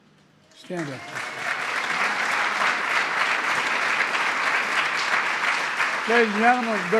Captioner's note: applause